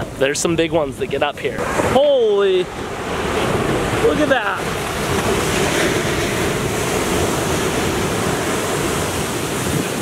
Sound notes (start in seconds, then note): 5.0 waves crashing